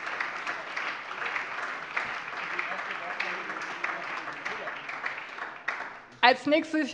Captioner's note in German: Beifall